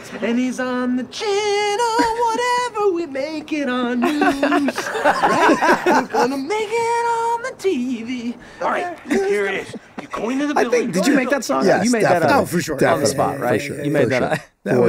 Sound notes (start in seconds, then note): 3.9 all laughing